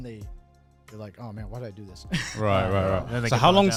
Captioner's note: chuckles